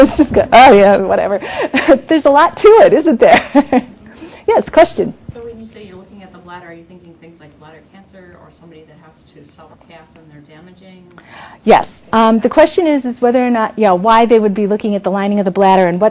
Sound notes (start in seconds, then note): 3.1 laughs